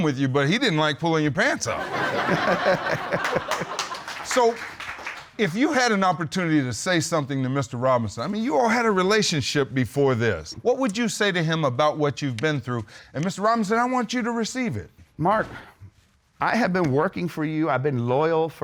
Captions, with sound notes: with you, but he didn't like pulling your pants up. [laughing] [applause] So, if you had an opportunity to say something to Mr Robinson, I mean you all had a relationship before this, what would you say to him about what you've been through? And Mr Robinson, I want you to receive it. Mark, I have been working for you, I have been loyal